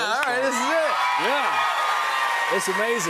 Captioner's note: cheers and applause